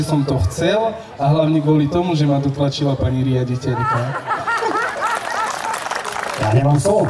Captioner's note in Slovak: smiech